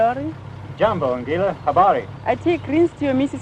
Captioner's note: speaking foreign language